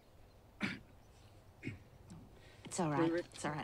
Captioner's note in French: toux